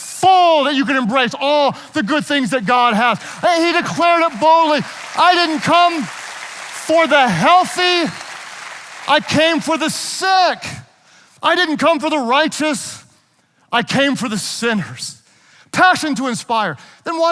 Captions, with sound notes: and you can embrace all the good things that God has. Hey, he declared it boldly. (audience applauding) I didn't come for the healthy. I came for the sick. I didn't come for the righteous. I came for the sinners. Passion to inspire, then watch this.